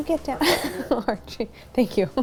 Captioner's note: laughs